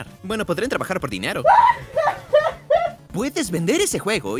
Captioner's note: laughs